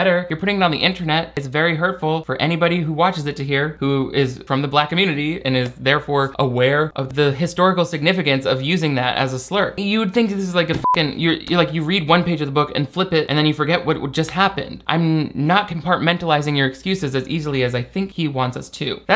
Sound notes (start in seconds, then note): 10.7 beep